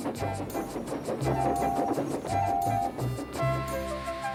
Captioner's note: toot toot